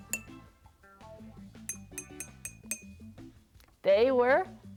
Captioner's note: jar tinking